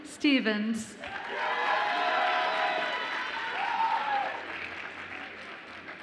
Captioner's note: audience applauds and cheers